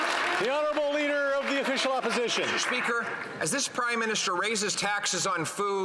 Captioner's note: some Applause